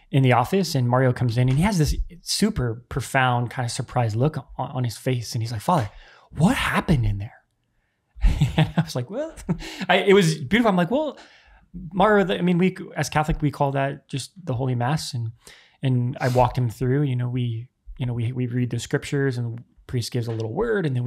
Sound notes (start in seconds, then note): 8.2 chuckles